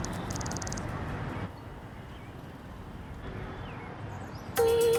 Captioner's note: birdsong; clicking